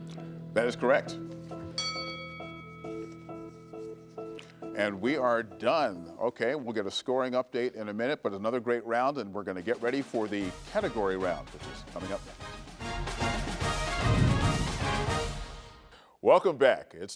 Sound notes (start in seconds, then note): 1.7 bell chimes; 2.4 gentle music; 12.4 dramatic music